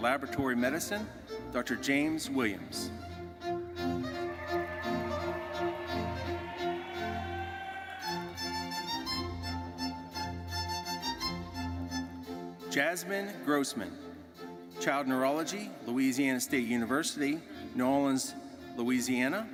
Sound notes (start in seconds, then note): 4.1 audience cheering and applauding; 8.7 orchestral music continues